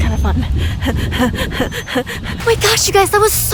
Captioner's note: takes sharp breaths